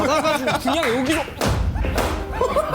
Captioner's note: slam!